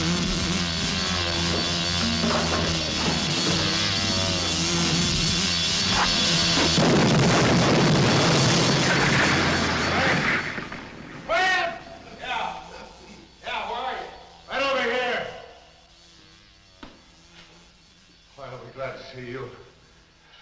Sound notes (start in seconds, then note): 6.4 explosions rumbling; 9.0 stones clacking